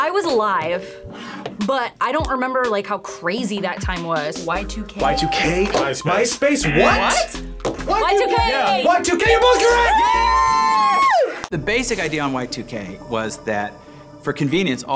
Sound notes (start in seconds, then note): 7.5 buzzer